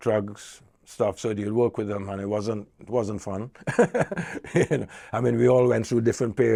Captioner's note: chuckles